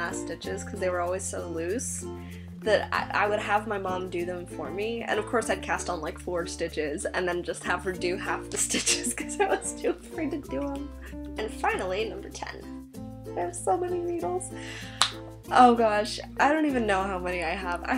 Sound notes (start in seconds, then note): 11.7 laughing